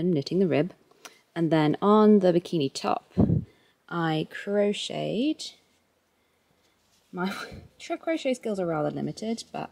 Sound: wind/mic noise

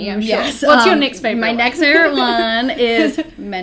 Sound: laughs

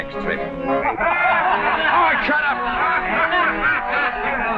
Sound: guffaws

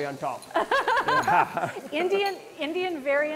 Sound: both laugh

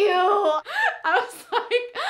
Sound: laughing

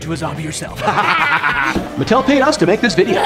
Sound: all laughing

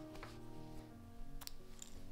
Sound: snip

